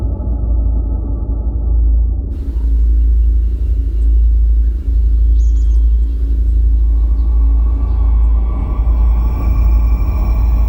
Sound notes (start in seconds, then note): 2.5 birds chirping; 7.1 dissonant ringing